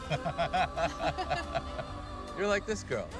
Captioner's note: both laugh